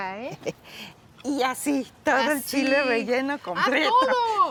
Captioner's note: speaking Spanish